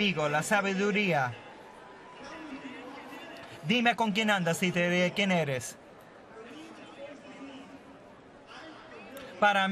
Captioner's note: speaking spanish